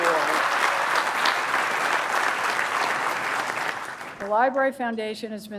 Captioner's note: applause